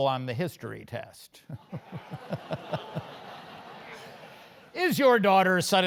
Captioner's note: laugh